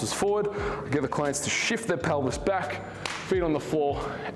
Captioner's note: hands thud